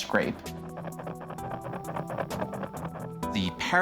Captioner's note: scraping